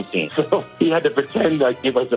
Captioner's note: laughs